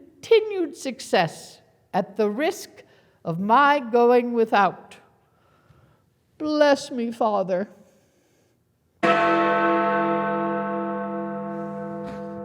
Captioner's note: bell rings